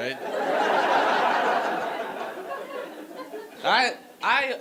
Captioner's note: audience laughing